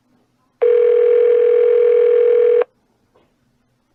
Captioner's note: phone still ringing